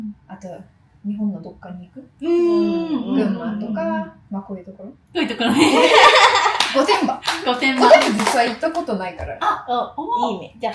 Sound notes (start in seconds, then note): 5.5 laugh